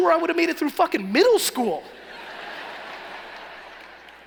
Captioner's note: laughing